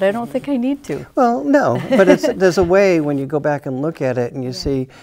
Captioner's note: chuckles